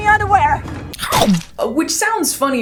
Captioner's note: gobbles